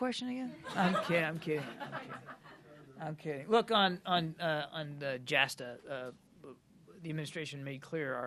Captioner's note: laughter